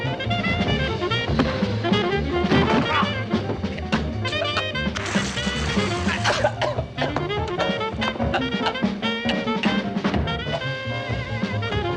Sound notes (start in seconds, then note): 2.6 grunts; 5.5 coughing - Gasping